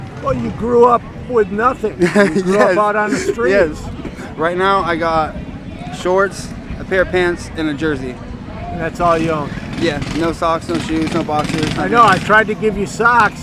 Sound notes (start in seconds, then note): 2.0 laughing